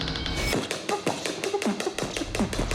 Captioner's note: beatboxing